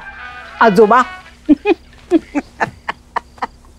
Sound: mocking

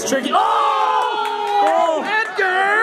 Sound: group shouts

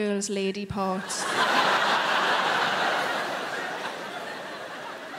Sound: crowd laughing

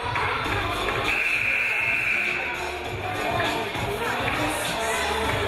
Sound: game buzzer buzzes

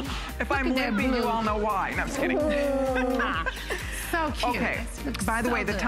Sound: laughter

